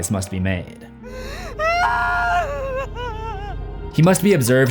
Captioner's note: sobbing